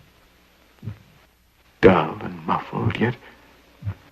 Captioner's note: beating sound